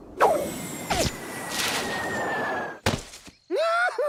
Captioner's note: air whistling; neighing and laughing; thuds